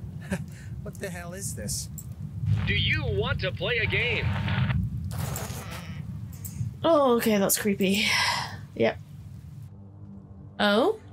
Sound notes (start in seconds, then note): 2.5 radio